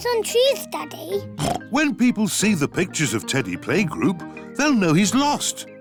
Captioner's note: oinks